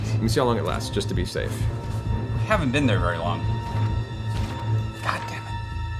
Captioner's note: whispering